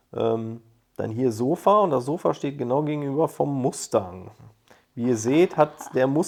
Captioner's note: Machiavellian laugh